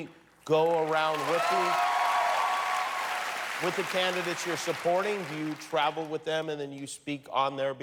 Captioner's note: cheers and applause